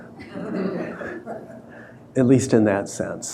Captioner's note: audience laughing